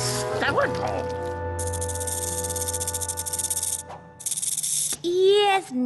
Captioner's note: rattle